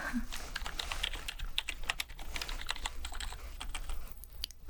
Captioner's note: typing sounds